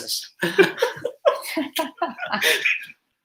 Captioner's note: laughter